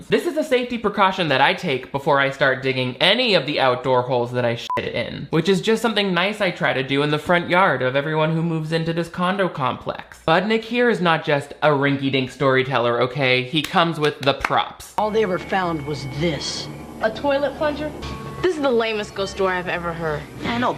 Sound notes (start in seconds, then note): 4.6 beep